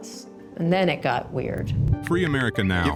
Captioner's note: tweets posting